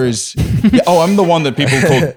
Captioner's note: laughing